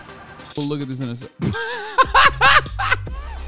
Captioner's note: laughter